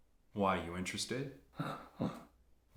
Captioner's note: laughs